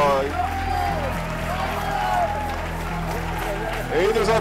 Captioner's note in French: applaudissements